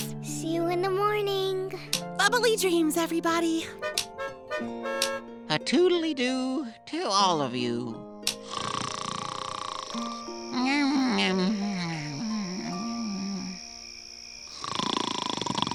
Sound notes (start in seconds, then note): 3.7 horn honking; 8.4 snoring